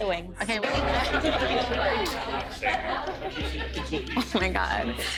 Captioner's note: crowd chatter